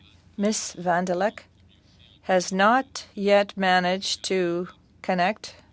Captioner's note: speaking French